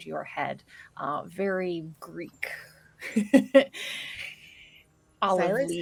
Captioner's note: laughs